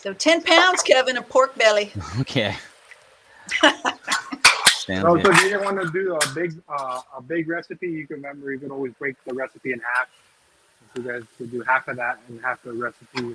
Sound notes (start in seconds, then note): 3.4 laughing